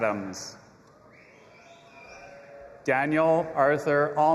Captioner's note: audience applauding and cheering